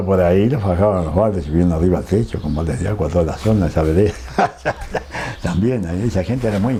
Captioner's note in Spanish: risas